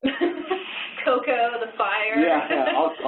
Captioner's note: laughs